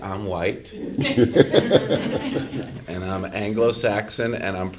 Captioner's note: laughter